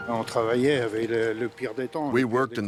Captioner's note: speaking in foreign language